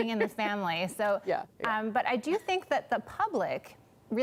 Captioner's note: laughter